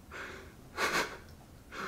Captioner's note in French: rire soufflé